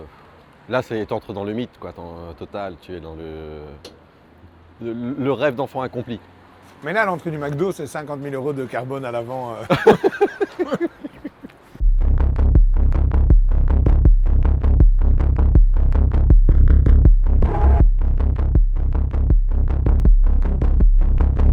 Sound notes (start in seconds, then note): 9.6 laughs; 11.8 rhythmic music